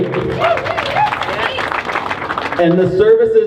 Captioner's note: crowd cheers